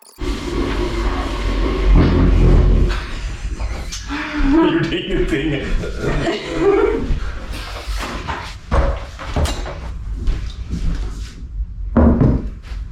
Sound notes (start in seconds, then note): 6.6 laughing